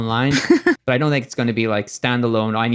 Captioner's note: laughs